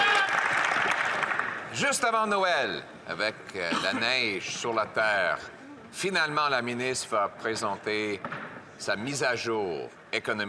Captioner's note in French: voix de l'interprète